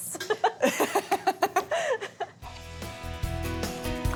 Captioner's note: laughing